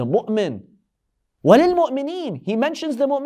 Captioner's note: Arabic